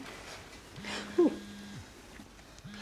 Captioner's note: phone buzzes; chuckles